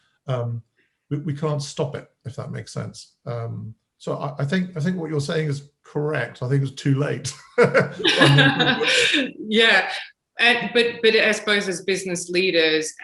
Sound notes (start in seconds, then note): 7.2 laughter